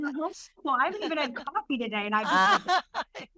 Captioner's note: laughter